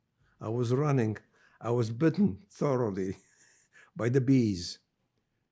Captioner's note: laughing